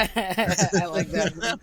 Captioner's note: laughing